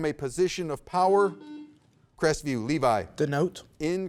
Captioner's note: buzzer beeps